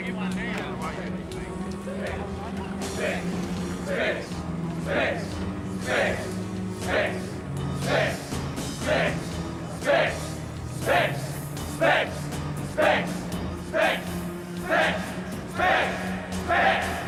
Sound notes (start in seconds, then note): 1.8 prisoners chant